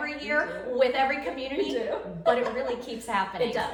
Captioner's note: laughing